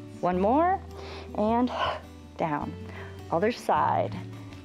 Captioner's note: exhales